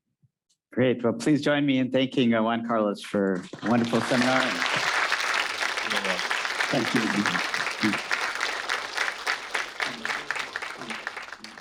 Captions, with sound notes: - Great, well please join me in thanking Juan Carlos for a wonderful seminar. (audience applauding)